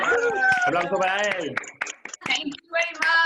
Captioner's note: cheering